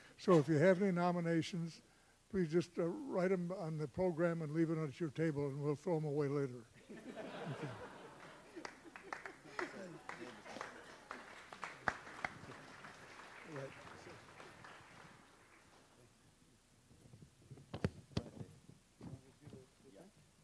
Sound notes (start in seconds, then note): 6.8 audience laughs; 10.3 audience applauds